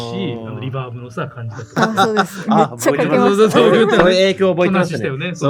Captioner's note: laughs